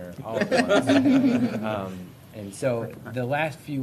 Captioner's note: laughter